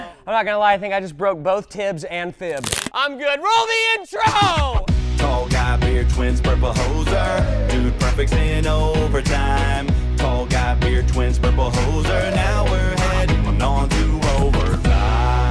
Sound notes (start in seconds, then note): 2.5 crack